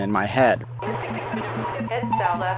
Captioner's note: electronic fizzling